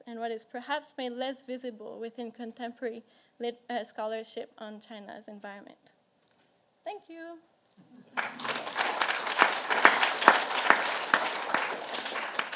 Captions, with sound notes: and what is perhaps made less visible within contemporary lit scholarship on China's environment. Thank you. (audience applauds)